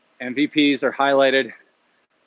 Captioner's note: none